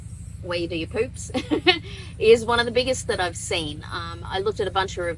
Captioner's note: chuckles